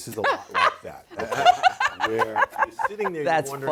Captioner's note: laughing